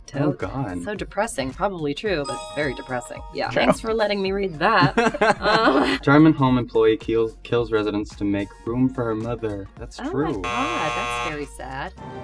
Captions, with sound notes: So depressing. Probably true, but very depressing. Thanks for letting me read that. [Laughing] That's true. - Oh my god, that's very sad.